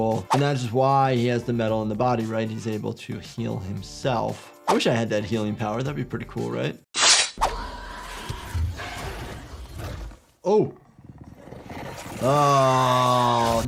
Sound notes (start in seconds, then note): 7.0 blades scraping; 7.0 xenomorph screeching; 11.1 xenomorph breathing heavily